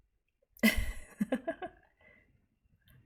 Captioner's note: laughs